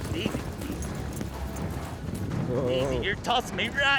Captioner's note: hoofbeats